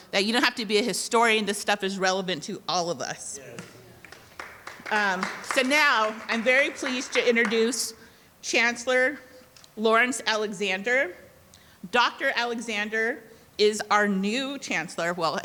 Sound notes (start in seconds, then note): 3.5 audience clapping